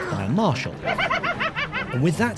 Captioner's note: laughing